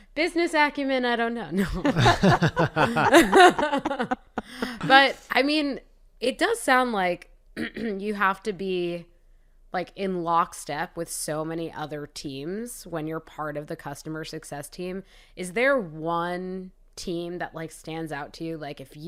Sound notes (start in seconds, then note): 1.6 laughter